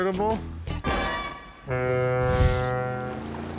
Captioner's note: foghorn